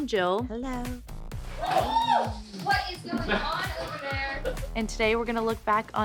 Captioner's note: whooping